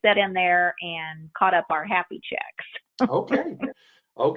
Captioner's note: laughs